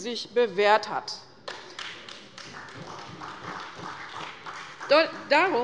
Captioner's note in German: Beifall bei der CDU und dem BÜNDNIS 90/DIE GRÜNEN